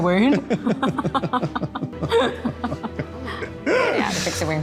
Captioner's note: both laughing